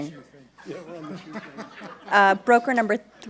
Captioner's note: laughing